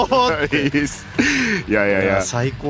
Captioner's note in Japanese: 笑い